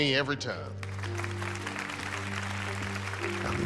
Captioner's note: audience applauding